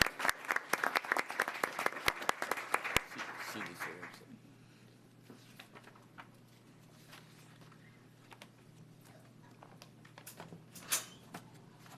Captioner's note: applause